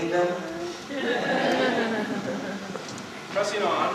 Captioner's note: laughter